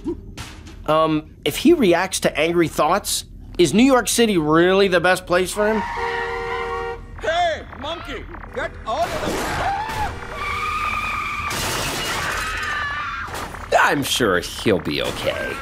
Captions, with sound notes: Um, if he reacts to angry thoughts, is New York city really the best place for him? [honking] Hey, monkey! Get outta the... [screaming, tires screeching, crashing] [screaming] I'm sure he'll be okay.